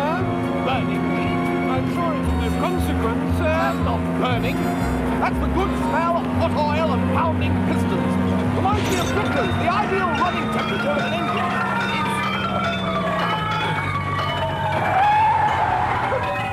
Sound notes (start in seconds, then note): 11.2 rattling and clattering; 14.4 brakes squealing